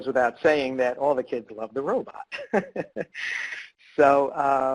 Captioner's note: laughs